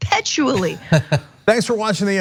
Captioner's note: laugh